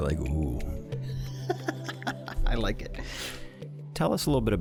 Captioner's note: laughing